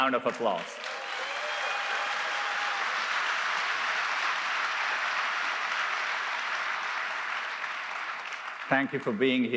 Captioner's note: applause